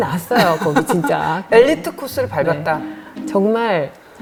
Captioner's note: chuckles